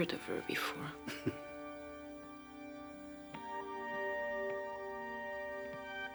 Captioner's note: Detective Lebrun chuckles